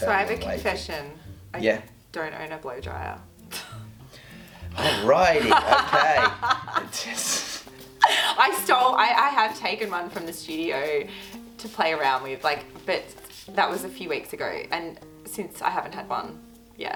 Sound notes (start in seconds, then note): 4.7 laughing